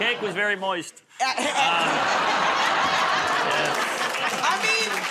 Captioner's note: laughter